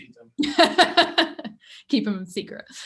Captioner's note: laughs